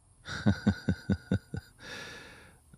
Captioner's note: laughs